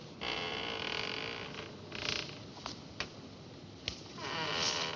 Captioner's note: creaking